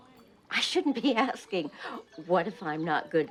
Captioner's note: laughs